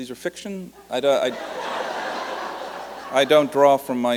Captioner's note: laughter